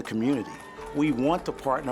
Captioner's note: people cheering